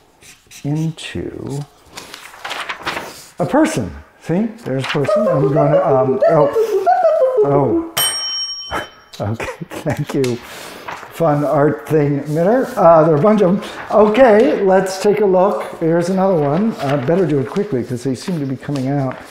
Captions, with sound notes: into a person. See, there's a person. (box beeping) Oh, okay. (bell rings) Thank you, Fun Art Thing Emitter. There are a bunch of, okay, let's take a look. Here's another one. Better do it quickly, cause they seem to be coming out.